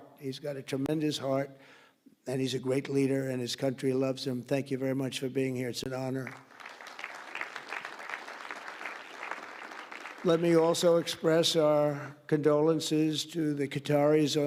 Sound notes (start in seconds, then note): 6.2 applause